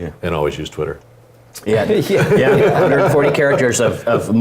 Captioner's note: laugh